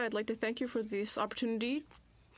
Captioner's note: speaking French